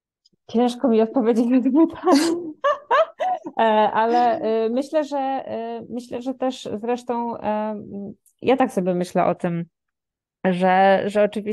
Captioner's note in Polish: śmiech